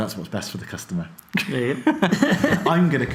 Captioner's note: both laugh